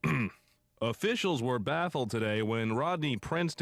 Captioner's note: clears throat